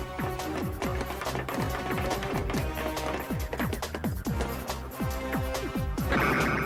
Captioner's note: rushing footsteps